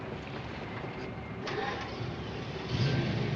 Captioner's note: engine starts